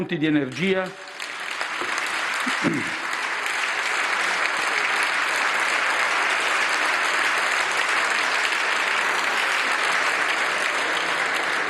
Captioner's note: maxi roar of applause